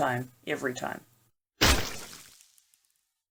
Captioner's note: splat sound